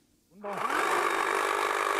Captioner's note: machine roar